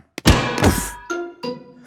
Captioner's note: thuds